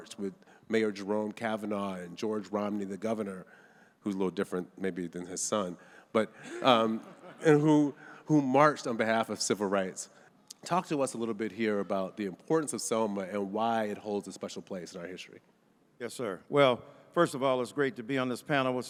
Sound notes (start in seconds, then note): 6.4 audience chuckles